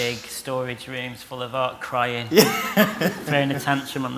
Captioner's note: laughs